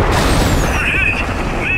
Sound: gunshots

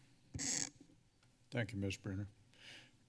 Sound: mic sounds

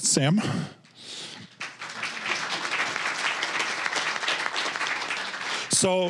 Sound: applause

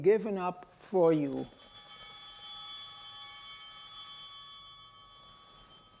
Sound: bell ringing

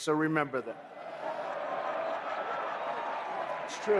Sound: applause

